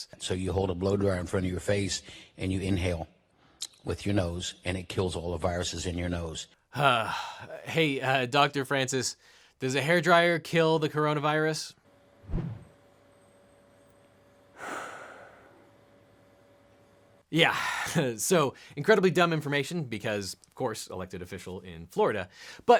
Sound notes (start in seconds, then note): 6.7 sighs; 14.6 sighs defeatedly